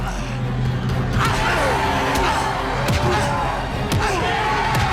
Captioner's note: Kurt groans